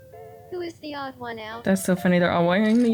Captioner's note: game audio